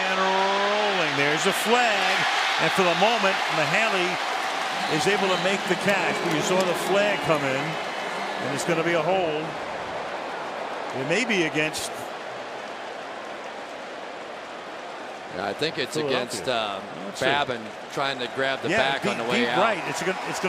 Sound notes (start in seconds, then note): 2.6 cheering